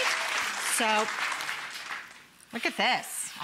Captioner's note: audience applauding